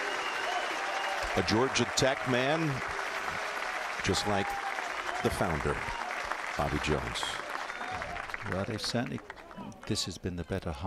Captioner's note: cheers and applause